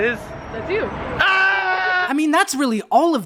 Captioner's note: screaming